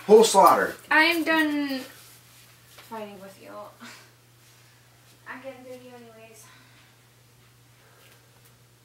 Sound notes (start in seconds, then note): 6.7 sighs